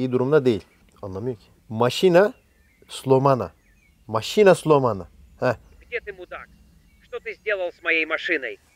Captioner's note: speaks in foreign language